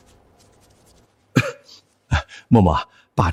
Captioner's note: cough